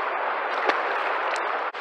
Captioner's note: splash